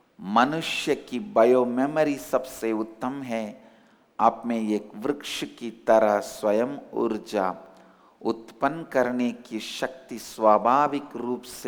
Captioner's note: hindi